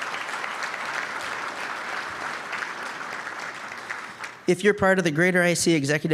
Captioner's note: applause